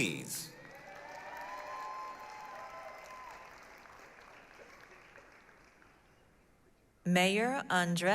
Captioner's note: applause, cheering